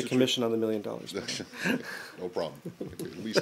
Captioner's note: laughter